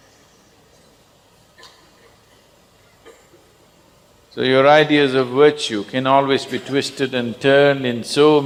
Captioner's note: laughter